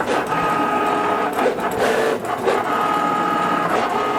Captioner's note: machine whirring